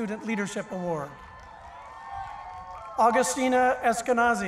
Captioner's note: cheering